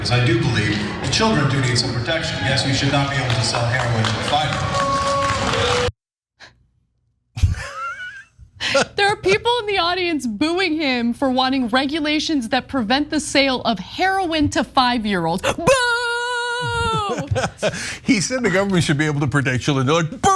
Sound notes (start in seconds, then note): 6.0 applause; 7.4 laugh; 15.4 laugh